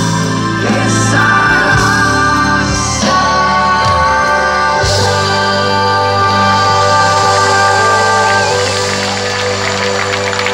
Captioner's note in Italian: Applauso